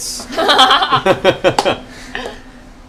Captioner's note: laughter